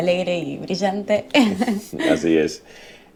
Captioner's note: laughing